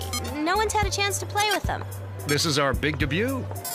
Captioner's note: beeping